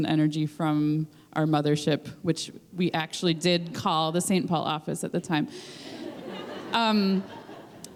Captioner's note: laughter